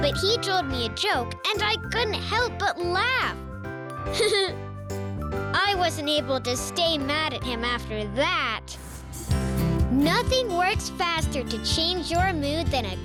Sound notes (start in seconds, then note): 4.5 laughing